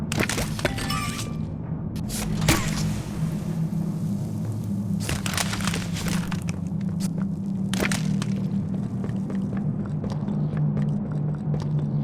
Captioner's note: gunfire